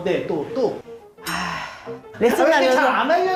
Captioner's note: sudden sigh 🙁